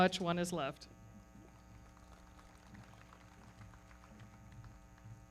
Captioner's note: everybody clapping